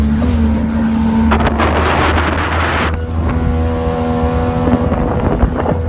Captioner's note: wind blows over microphone